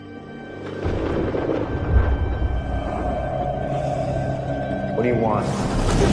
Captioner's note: thunder rolls